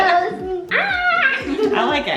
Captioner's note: yells